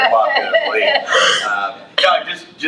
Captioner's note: trustees laughs